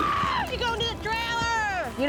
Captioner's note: shouting